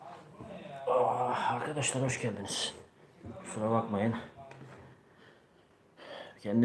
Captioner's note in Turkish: homurdanır